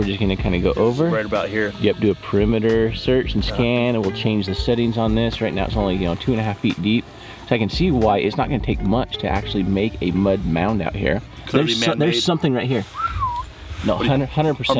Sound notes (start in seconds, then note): 12.8 whistling